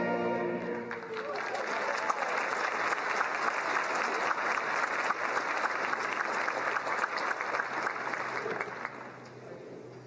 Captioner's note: applause